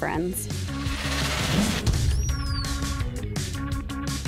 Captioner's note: whooshing